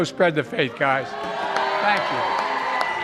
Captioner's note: applause